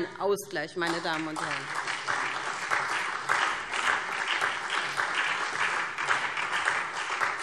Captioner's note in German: Beifall SPD